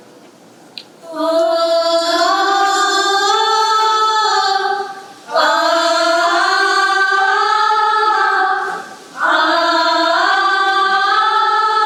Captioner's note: women humming in unison